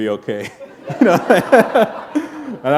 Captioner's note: laughter